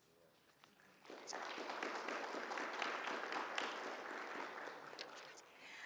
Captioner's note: audience applauds